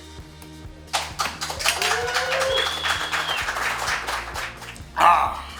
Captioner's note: applause & Cheering